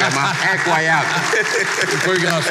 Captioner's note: laughter and applause